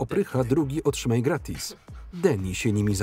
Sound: chuckles

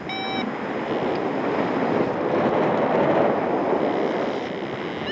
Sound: fabric scraping

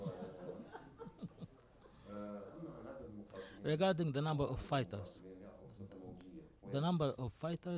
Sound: laughter

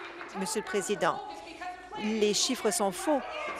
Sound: applause

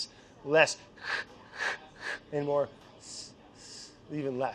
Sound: imitating scraping

